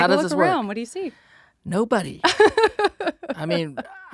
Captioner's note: laughs